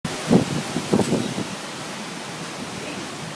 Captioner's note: sound of strong wind